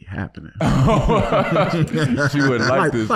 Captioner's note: laughing